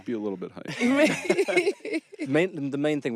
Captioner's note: laughing